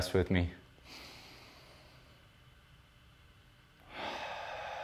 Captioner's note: deep breathing